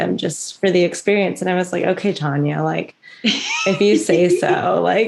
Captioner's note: laughter